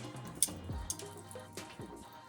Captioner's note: sizzling